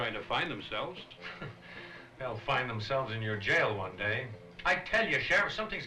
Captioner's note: scoffs